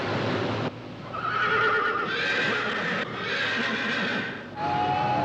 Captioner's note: whinnying; crowd Cheering